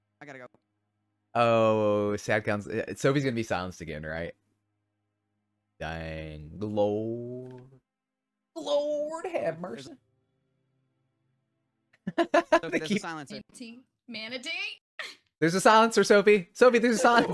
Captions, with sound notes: I gotta go. - Oh, sad counts. Sophie's gonna be silenced again, right? Dang, the Lord. - Lord have mercy. (laughing) - There's a silencer. - Manatee? - There's a silencer, Sophie. Sophie, there's a silencer.